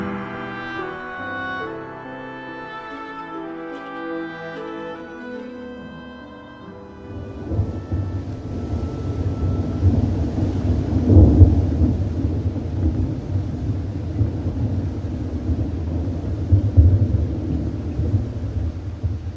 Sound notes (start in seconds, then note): 6.9 thunder rumbling